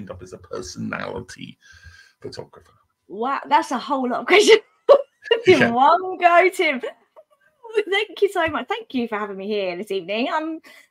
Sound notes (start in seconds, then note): 5.2 laughter